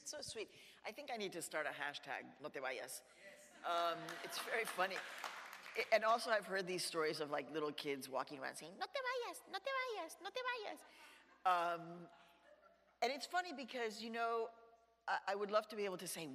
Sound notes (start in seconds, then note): 3.9 audience applauds; 11.2 audience laughs